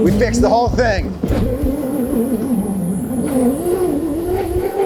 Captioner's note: engine revving